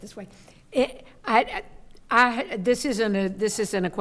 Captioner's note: stammering